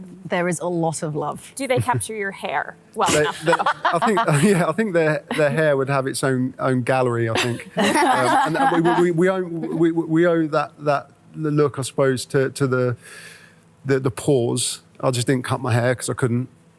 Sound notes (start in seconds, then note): 7.3 all laugh